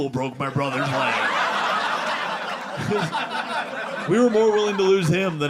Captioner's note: audience laughing